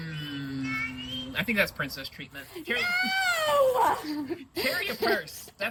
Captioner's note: laughs; laughs